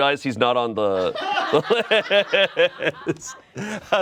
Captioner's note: friends laugh